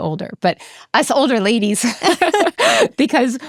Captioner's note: chuckles